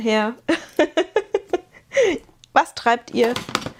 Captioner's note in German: gelächter